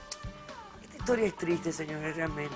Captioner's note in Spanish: chasquea la lengua